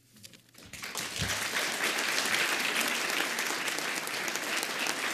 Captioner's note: audience applauds